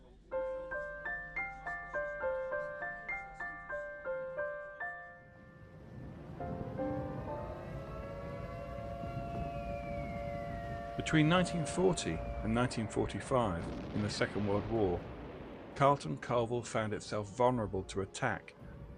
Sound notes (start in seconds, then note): 0.2 magical, twinkling piano; 5.8 sound of air-raid siren